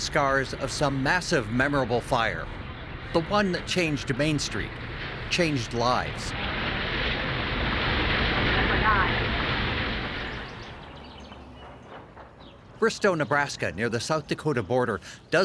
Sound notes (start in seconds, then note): 9.7 building crashing; 11.7 birds chirping